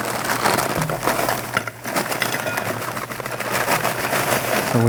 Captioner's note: ice clinks